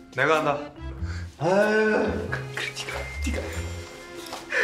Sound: whispered

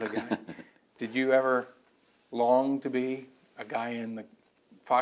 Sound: laughs

